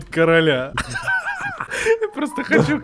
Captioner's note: laugh